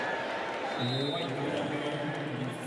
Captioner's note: whistle